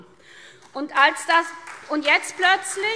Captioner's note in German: Beifall SPD